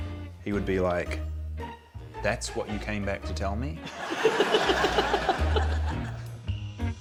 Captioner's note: laughs